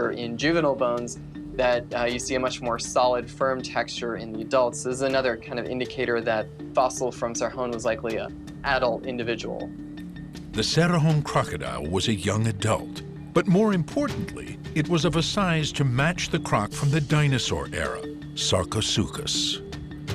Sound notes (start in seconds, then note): none